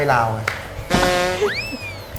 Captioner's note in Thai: เสียงเอฟเฟกต์